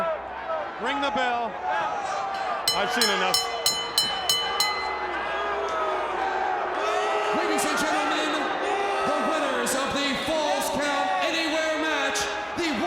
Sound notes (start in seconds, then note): 2.6 bell ringing